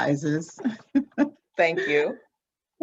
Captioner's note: laughs